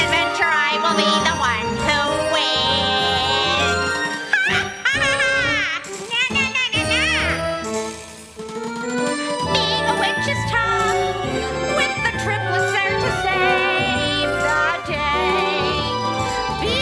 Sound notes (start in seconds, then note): 3.9 cackles